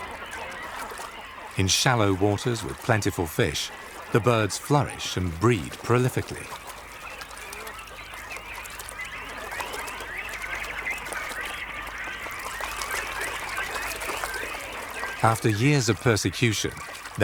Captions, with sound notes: (birds calling) In shallow waters with plentiful fish, the birds flourish and breed prolifically. (birds singing) After years of persecution,